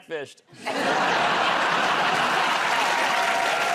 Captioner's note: laughter